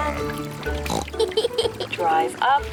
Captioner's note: oinks and giggles